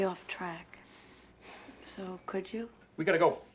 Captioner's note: sighs